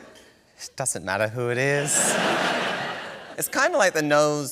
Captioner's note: laughter